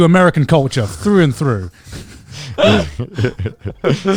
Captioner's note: laughing